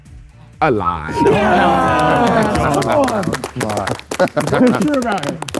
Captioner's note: group cheering